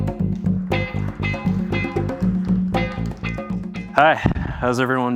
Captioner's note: funky music; audience applauding